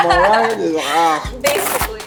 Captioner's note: groans